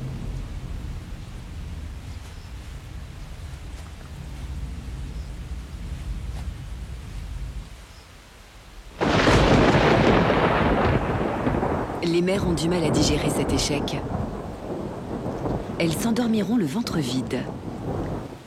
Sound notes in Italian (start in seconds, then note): 9.1 temporale